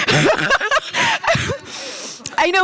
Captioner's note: laughter